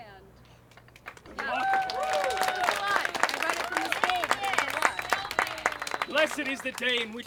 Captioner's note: applause